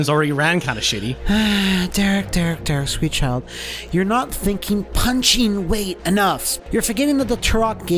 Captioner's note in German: seufzt